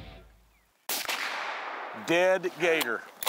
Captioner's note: firing rifle